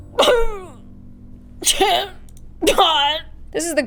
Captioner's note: indistinguishable sad noises; sob